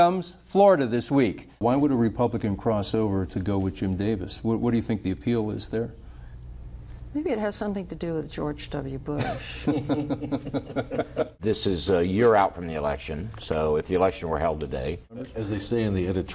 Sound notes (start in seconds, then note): 9.2 laughter